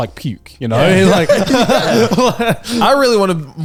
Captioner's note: all laughing